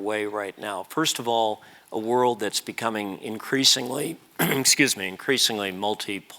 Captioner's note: cough